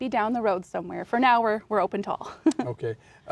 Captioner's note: laughs